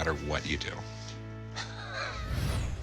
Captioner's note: laughing